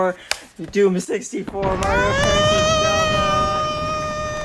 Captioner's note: rock crumbling noises